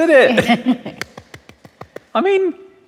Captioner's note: laughs, claps